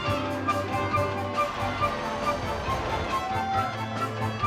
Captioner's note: air quivers